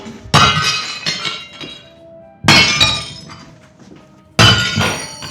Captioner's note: plates clattering